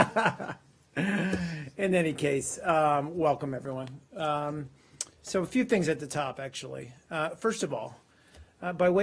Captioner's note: laughter